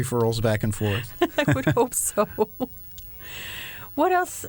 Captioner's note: laughter